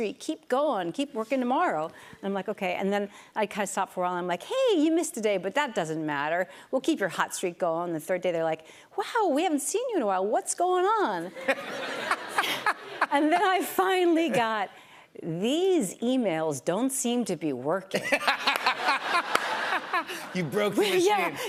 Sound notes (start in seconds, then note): 17.9 laughter